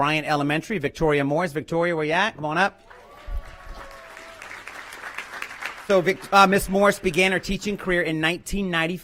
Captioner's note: applause